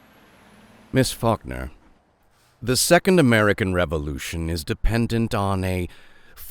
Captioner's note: none